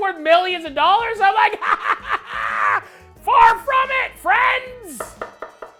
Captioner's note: laughs hysterically